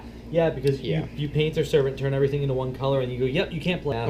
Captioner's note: none